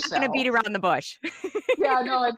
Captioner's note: laughs